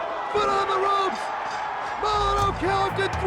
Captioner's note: bell rings